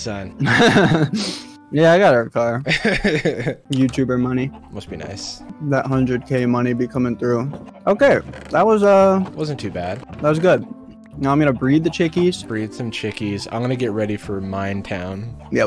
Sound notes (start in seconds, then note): 2.6 laughs; 2.6 chuckles